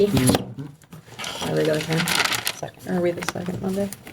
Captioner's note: trustee speaking faintly